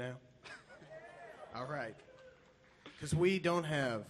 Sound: pianist chuckles; audience cheers

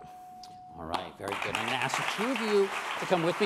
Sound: bell dings; applause

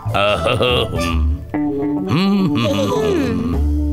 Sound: hums

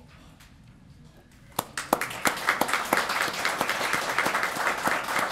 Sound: applause

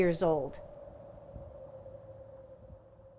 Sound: wind howls in background

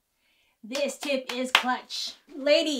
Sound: hands clapping

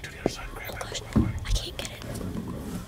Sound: whispering

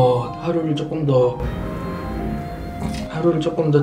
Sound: worst timing for a motorbike to pass

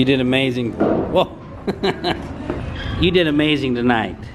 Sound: laughing

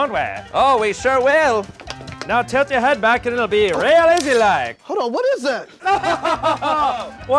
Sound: deranged laugh

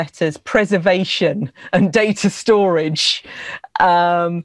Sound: laughs

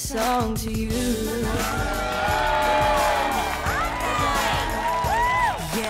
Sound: cheering

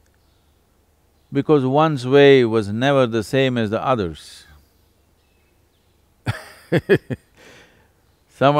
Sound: laughs

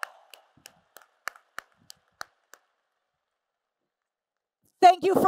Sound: applause and Cheers

